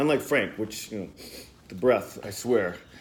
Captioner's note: sniffs